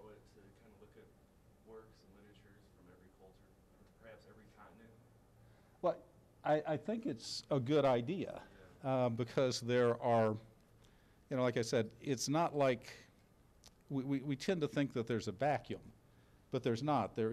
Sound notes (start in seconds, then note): none